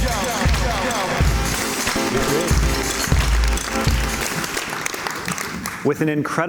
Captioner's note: cheers and Applause